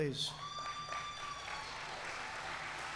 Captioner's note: applause